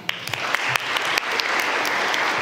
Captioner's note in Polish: oklaski